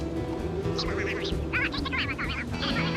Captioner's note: chattering